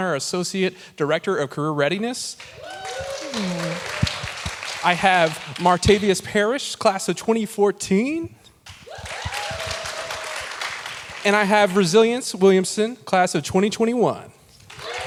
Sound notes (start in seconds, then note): 2.4 audience cheering, clapping; 8.6 audience cheering, clapping; 14.6 audience cheering, clapping